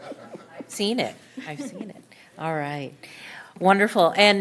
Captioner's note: laughter